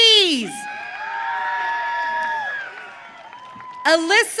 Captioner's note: audience cheering